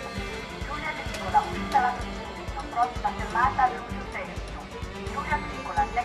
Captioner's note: automated announcments